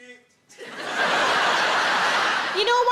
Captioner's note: audience laughs